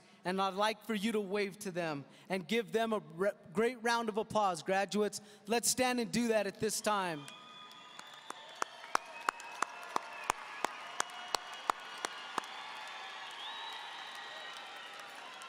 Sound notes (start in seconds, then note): 7.2 audience applauding